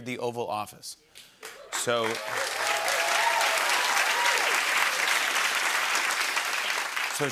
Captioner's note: cheers and applause